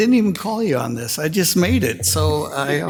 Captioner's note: council laughing